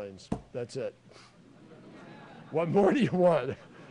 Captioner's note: laughter